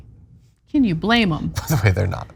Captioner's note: laugh